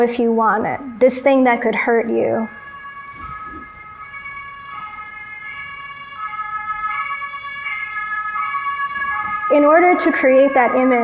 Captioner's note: sirens in the background